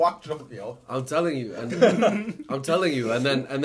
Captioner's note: laughing